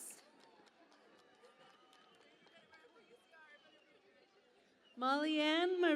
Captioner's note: cheering and Applause